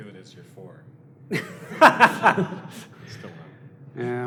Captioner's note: laughter